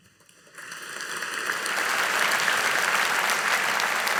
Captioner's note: audience applauding